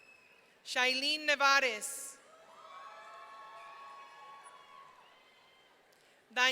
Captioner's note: audience cheering; audience cheering